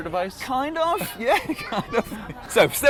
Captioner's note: laughs